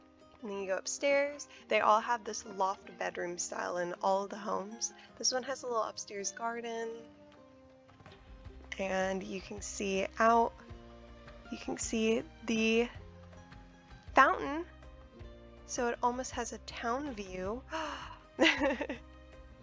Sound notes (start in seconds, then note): 17.7 gasps; 18.4 laughs